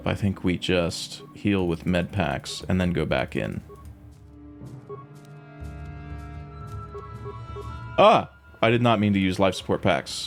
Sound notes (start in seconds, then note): none